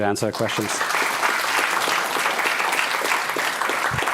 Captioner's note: applause